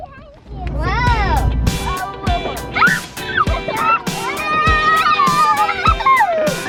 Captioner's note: kids squealing